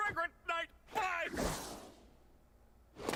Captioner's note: whooses away like a coward